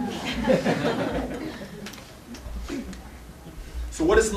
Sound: laughter

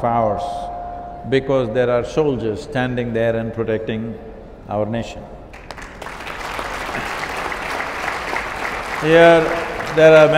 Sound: applause

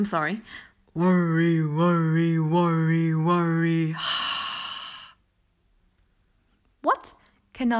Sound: English voice over; breath out; English voice over

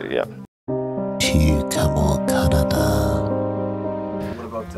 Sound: narrator in French

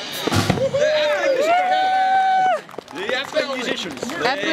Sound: woops and clapping

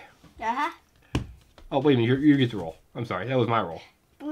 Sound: voiceover

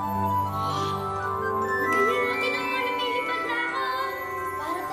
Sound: gasps

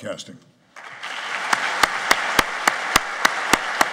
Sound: applauding

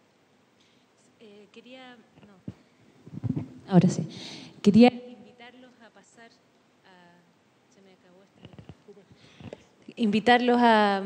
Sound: audio drops

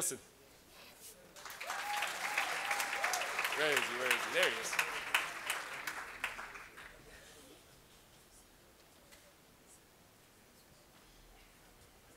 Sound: applause

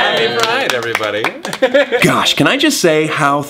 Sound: laughter

